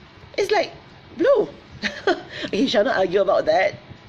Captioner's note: laughs